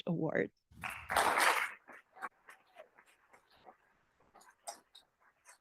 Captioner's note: applause